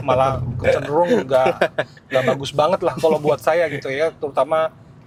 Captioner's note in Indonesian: tertawa